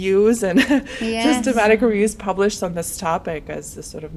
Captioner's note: laughs